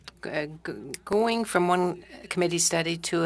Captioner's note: speaking French